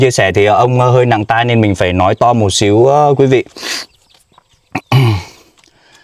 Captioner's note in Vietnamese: khịt mũi; hắng giọng